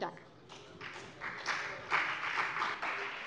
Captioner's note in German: Beifall CDU und vereinzelt BÜNDNIS 90/DIE GRÜNEN